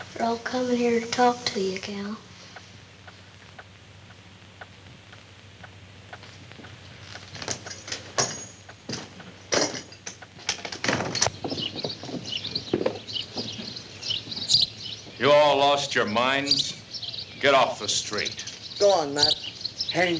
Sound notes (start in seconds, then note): 11.6 birds chirping